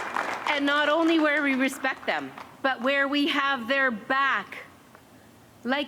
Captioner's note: cheers and applause